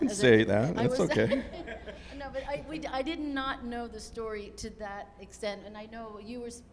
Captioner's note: laughs